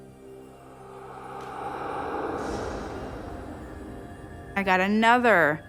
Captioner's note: wind whooshing